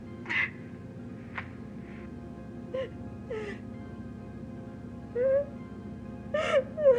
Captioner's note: gentle music; Kim crying